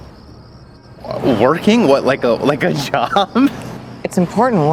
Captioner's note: giggles